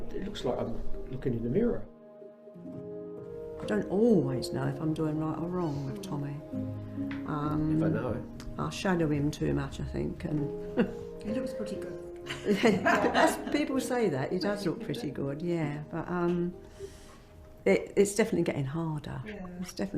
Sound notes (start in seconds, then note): 10.6 chuckles; 12.3 all laugh